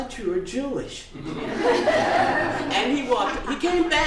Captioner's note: laughter